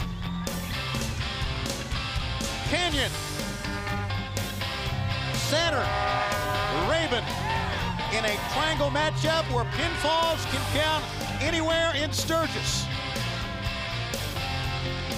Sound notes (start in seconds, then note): 7.1 crowd cheering